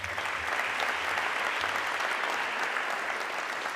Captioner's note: audience clapping